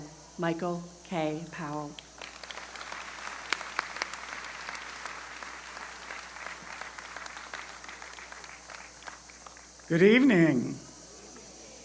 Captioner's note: applause